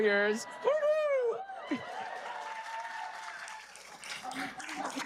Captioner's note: audience cheering and applauding